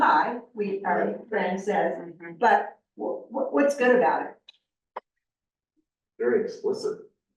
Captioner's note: muffled voice